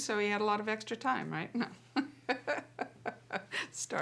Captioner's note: laughs